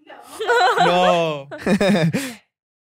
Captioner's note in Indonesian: tertawa